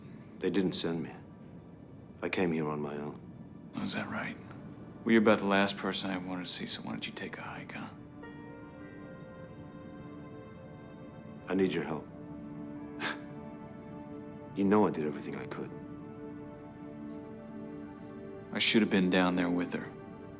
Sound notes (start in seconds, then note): 12.7 scoffs